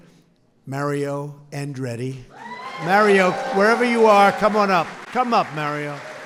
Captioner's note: applause